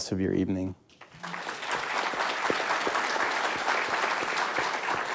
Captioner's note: all applauding